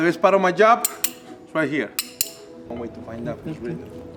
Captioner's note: clanks cutlery